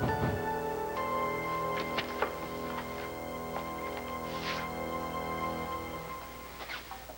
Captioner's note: knock on door